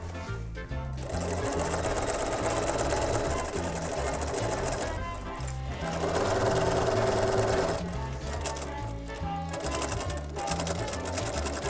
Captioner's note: sewing